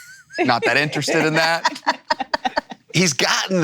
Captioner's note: laughs